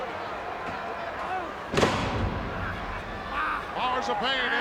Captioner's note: ground slamming